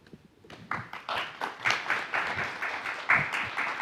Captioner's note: applause